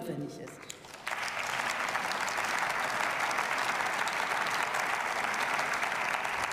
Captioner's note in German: Beifall